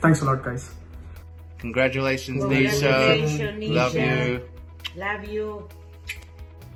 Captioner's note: in Unison